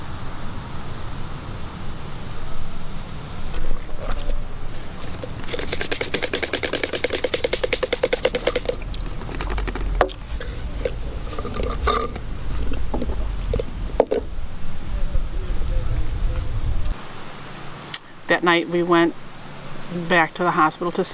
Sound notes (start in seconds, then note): 5.0 drinks clacking; 11.5 object clattering; 11.5 straw hissing